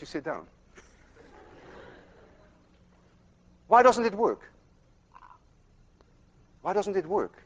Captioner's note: class laughs